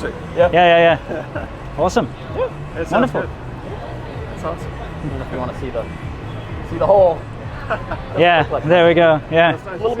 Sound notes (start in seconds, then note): 7.4 man chuckles